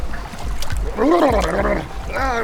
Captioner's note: brrrllelelele